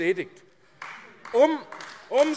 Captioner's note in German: Beifall AfD